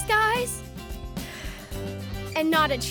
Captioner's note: inhales and exhales